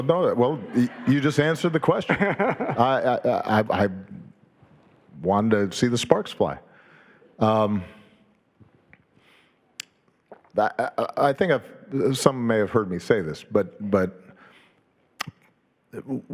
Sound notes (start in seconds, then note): 2.0 Dave laughing